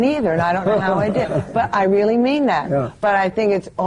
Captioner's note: laughter